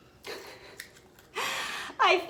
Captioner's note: giggling